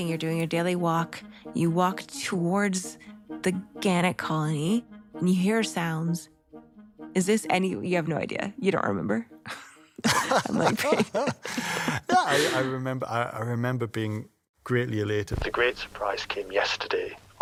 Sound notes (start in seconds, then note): 9.9 laughs